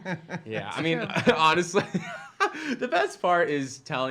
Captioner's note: laughing